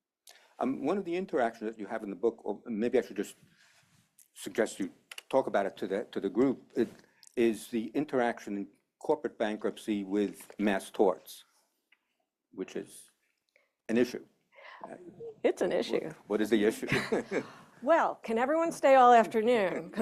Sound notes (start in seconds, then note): 16.8 laughter